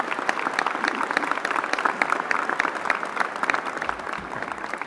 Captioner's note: applause